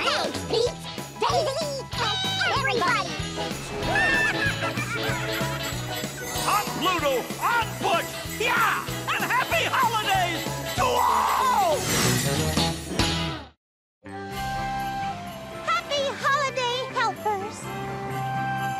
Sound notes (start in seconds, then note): 4.0 cheering